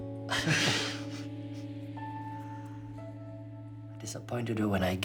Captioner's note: people laughing